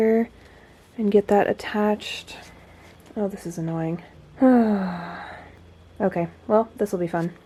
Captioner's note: groans again